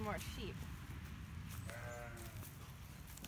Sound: sheep baas

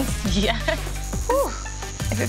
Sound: chuckles; sighs

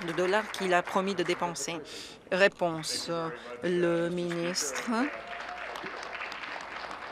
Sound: some Applause

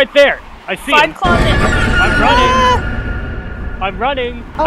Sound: jumpscare noise

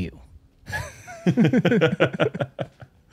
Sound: laughter

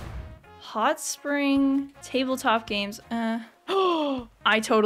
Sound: gasp

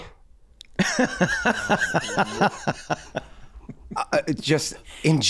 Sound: Glenn laughing

